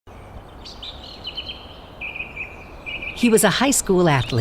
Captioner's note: birds chirping